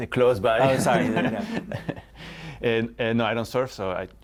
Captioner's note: laughter